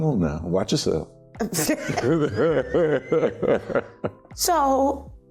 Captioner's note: laughter